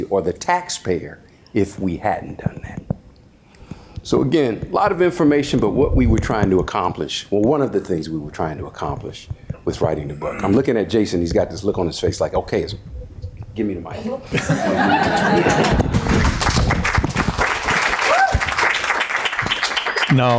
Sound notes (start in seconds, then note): 14.3 audience laughs; 14.5 audience applauding